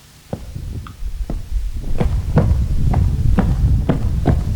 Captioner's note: footsteps